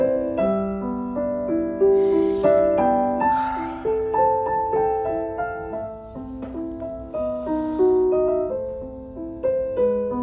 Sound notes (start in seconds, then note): 2.7 gentle piano music; 3.2 girl sighs